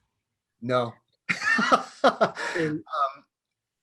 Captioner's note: laughs